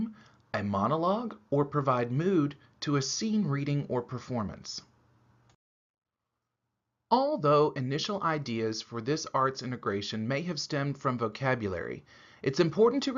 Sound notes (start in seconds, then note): none